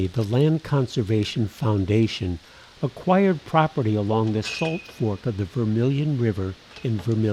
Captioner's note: metal clanking